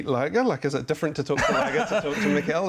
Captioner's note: laughs